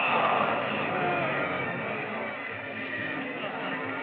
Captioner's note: crowd murmuring